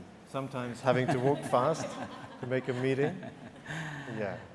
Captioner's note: laughter